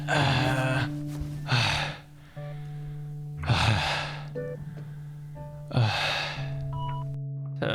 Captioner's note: stronger grunting; heavy breathing